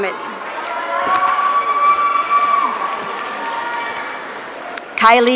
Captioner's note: audience cheering